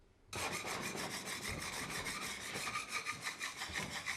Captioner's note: tool scraping